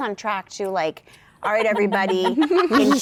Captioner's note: laughter